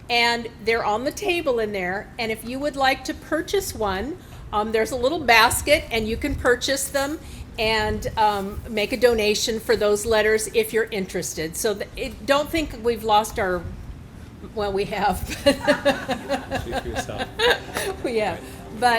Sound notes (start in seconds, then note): 15.2 laughing